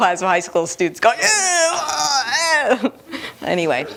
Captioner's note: disgusted noises